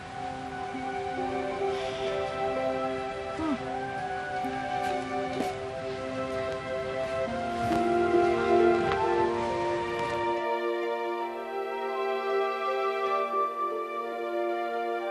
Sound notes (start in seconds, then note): 3.2 sighs; 7.5 mellow music playing